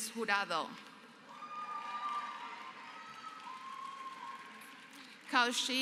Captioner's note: applause